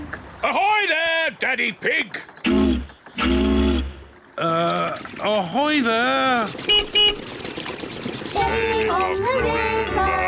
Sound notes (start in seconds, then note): 3.1 toots horn; 6.6 beeps horn